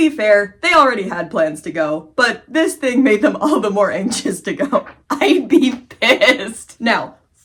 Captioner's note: cracking up; laughing